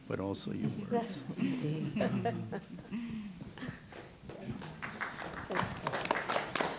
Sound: scattered laughter; applause

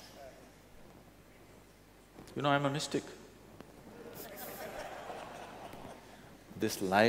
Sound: laughter

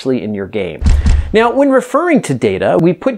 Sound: slide bangs

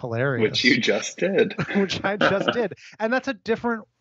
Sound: laughs

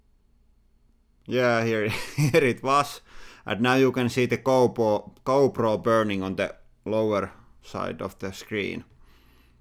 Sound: chuckles

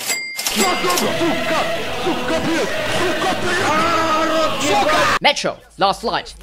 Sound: russian noises

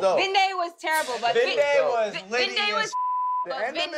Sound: beep

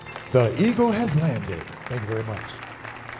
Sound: audience applauding

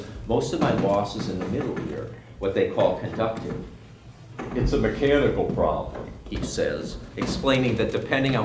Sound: robotic voice

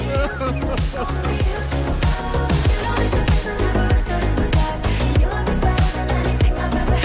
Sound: crying

